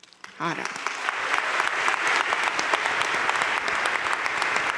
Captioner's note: audience applauding